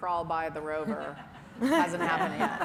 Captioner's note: laughter